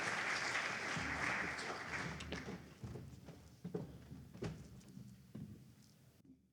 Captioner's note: applause